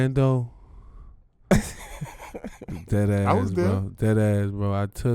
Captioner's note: Darius laughing